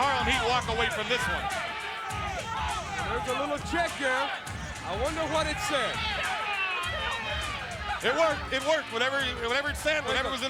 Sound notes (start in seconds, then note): 6.3 crowd chatters